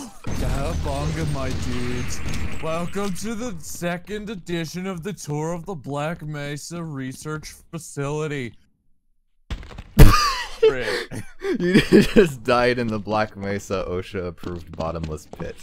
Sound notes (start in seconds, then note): 2.5 stoner voice; 10.0 body splatters; 10.0 laughter